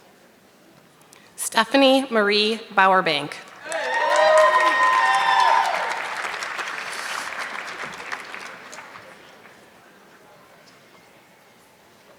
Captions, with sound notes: Stephanie Marie Bower Bank. (audience clapping)